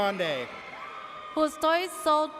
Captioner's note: audience cheers